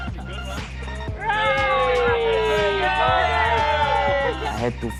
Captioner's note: cheering